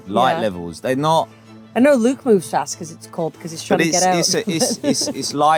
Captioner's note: laughs